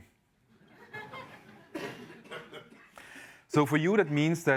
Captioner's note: laughter